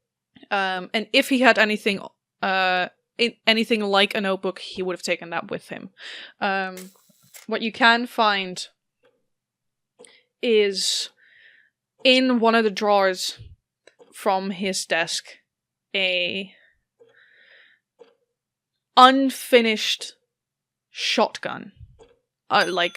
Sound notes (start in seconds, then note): 6.8 mechanical whir